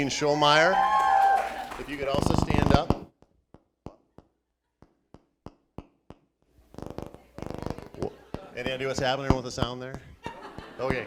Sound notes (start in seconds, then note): 0.4 cheering; 6.5 popping